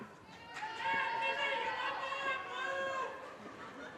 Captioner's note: audience cheers and applause